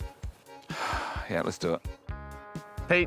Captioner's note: sighs